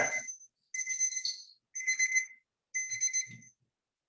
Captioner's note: alarm chiming